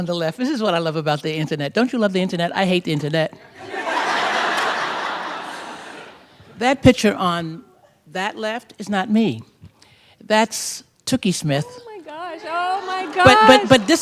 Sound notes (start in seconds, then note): 3.6 laughter